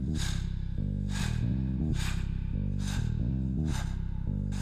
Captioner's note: heavy breathing